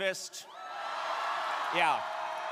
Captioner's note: crowd cheering